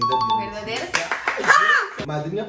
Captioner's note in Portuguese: Grito